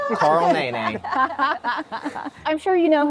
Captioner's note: group laughs